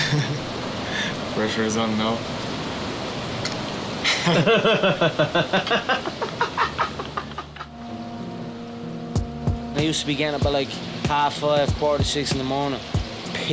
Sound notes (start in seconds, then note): 4.0 laughing